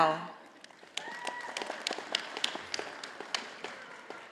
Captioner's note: audience applauding